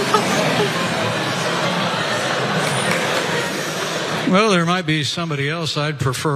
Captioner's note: laugh